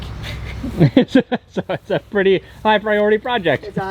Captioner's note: laughing